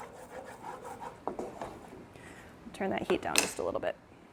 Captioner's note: spoon stirring in pan